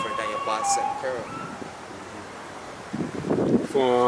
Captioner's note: dog howling